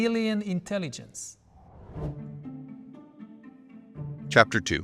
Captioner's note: graphics whooshing